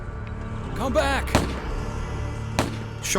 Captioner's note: gun shots